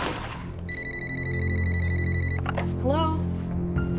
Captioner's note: phone rings